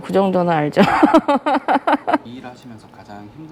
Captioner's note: Laughs